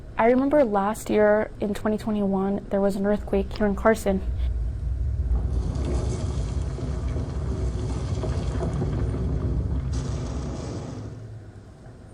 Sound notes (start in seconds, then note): 5.3 shaking and rumbling; 9.9 explosion